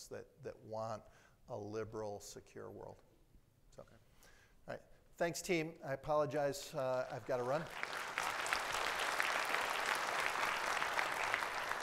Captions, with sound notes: that want a liberal, secure world. All right, thanks, team. I apologize, I've gotta run. (audience applauds)